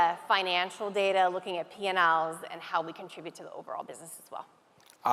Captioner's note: none